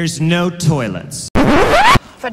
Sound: record scratch

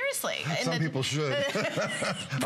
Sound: laughter

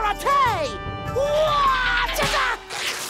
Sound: screaming

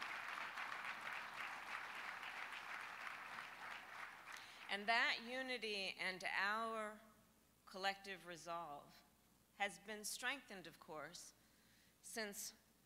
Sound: applause

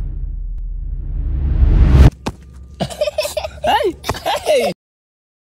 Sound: kid laughter

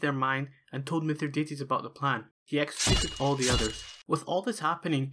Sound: slashing sounds

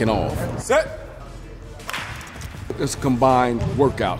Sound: gun sounds

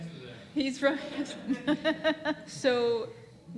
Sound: laughs

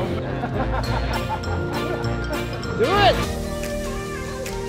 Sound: people laughing; chill electronic music playing

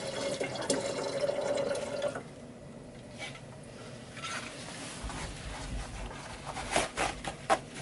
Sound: drain sucking sounds

